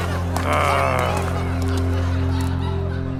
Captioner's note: growling